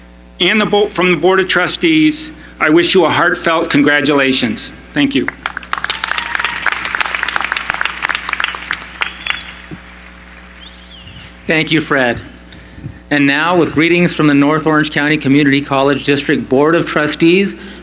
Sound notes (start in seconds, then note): 5.2 applause